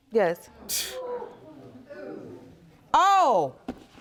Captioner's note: scoffs